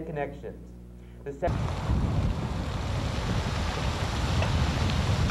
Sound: static wind noises

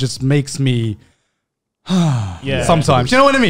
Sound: sighs

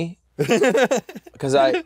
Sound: laughs

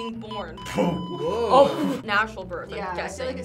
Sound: group gasps

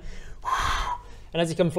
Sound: whooooo

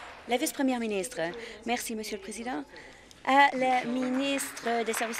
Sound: applause

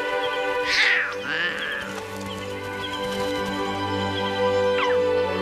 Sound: cubs roaring

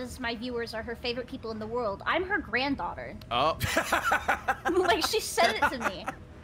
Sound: laughs

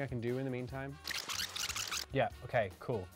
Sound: tape screeches

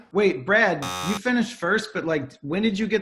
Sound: buzzer

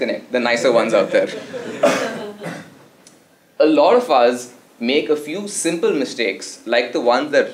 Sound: laugh

